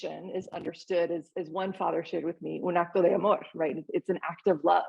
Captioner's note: speaking Spanish